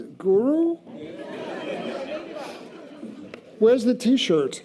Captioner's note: audience laughter